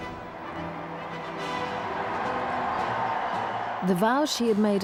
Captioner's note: opera music; crowd cheering